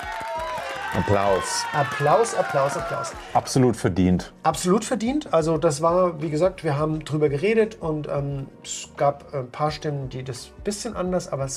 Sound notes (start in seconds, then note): 0.0 cheers